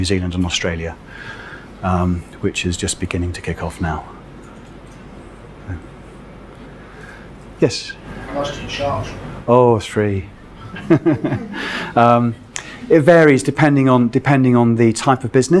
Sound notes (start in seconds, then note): 7.9 male Voice; 10.6 laughs